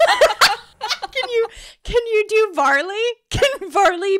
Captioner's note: laughing